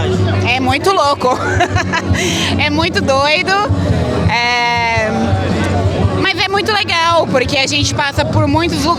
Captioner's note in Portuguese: risadas